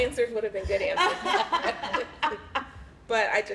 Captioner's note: laughter